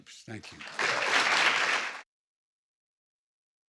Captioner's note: applause